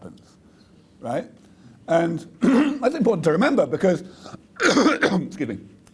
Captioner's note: coughs